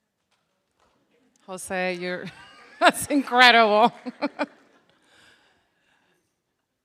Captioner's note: chuckling